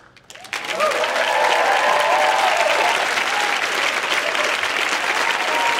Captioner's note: audience cheering and applauding